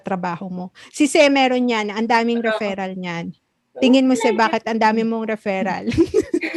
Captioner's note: laughs